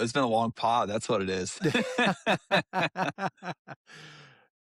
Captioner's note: laughter